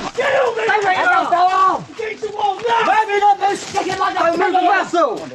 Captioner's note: shouts from the British forces